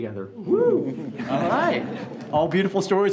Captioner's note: group laughs